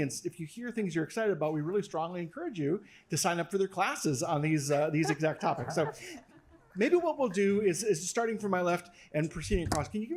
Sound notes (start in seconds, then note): 4.9 laugh